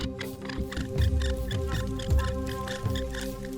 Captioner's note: fire bow squeaking